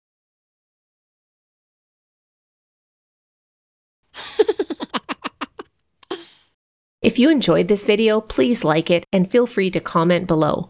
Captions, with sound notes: (laughter) If you enjoyed this video, please like it and feel free to comment below.